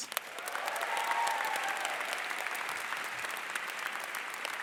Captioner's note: crowd applause